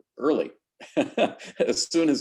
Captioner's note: laughing